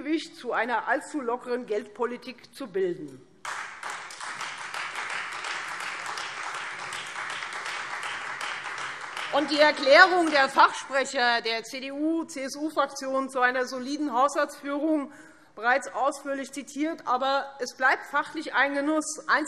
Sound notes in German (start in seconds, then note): 3.4 Beifall Freie Demokraten